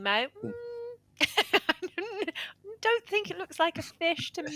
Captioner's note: laughs